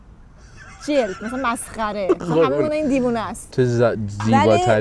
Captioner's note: laughs